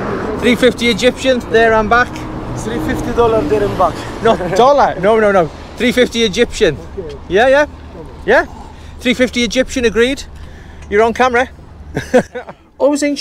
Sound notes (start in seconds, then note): 11.9 laughter; 12.7 voiceover